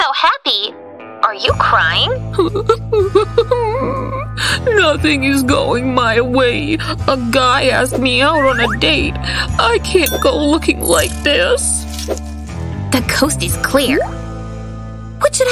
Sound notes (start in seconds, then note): 2.3 unrestrained sobs